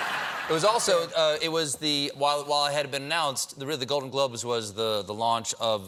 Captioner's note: laughter